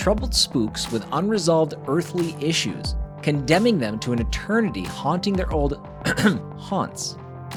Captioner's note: ahem